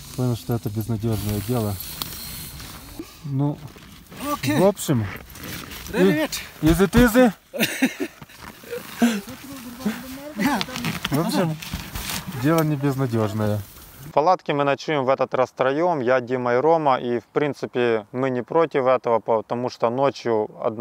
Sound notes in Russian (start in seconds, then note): 7.5 смеется